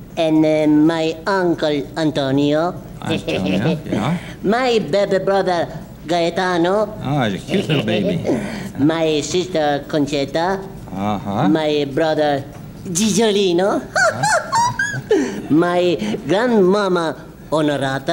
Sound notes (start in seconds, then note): 13.9 laughs